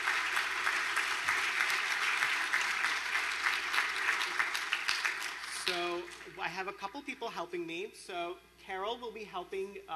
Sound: applause

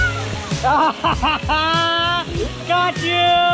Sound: laughing

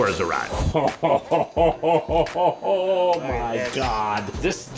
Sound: laughing

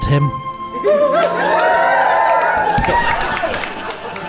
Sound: audience whoops and applauds

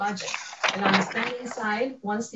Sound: papers crinkling

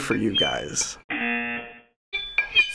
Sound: buzzer

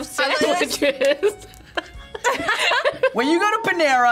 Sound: both laughs

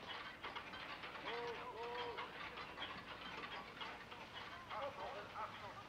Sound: many clocks ticking

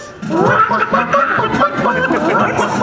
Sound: chicken clucks; audience laughter; chicken clucks

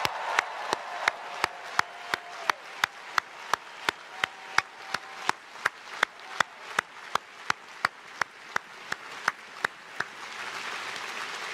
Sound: cheers and applause

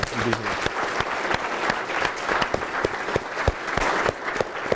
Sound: attendees applauding

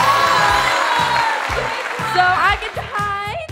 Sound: cheering

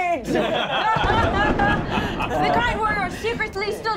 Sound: laughing

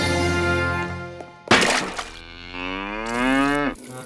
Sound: mooing; loud splat

